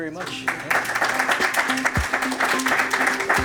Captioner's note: applause